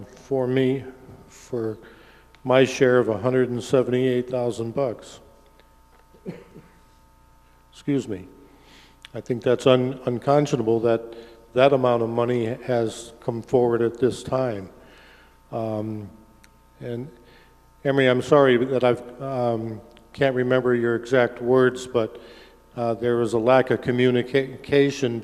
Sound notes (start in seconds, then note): 6.1 coughs